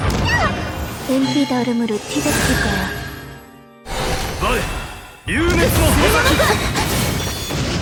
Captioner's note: clash